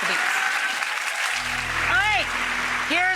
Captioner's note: audience applauds